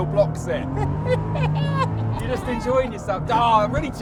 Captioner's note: chuckles